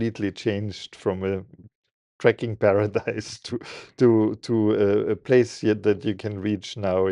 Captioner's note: laughing